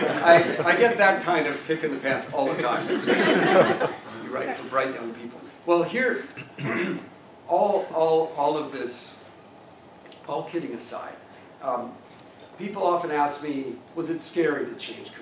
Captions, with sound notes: I, I get that kind of kick in the pants all the time. >> [LAUGH] >> So, right, right in. Well here, [COUGH] all, all, all of this, all kidding aside, people often ask me, Was it scary to change careers?